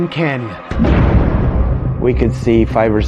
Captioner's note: suspenseful music; gunfire blasting